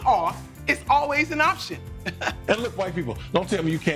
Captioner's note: chuckles